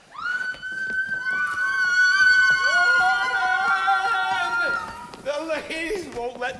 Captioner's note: ladies screaming